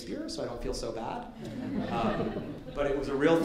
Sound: light laughter

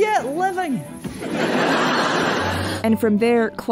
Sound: laughter

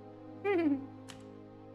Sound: humming

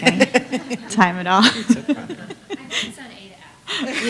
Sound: laughter

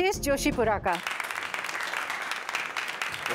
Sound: clapping

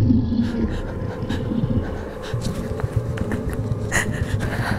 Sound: Erin gasping

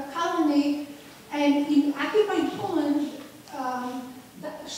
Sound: student mumbling

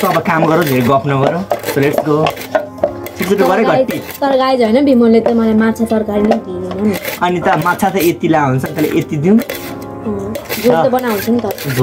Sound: speech foreign speech

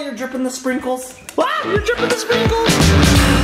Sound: screeches; upbeat music

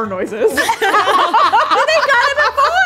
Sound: all laughing

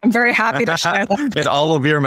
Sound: laughing

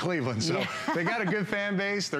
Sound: laughter

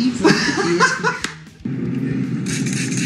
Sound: both laugh

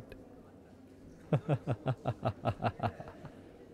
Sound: evil Laughter

